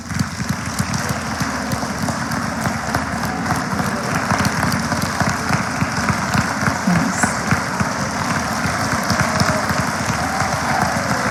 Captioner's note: applause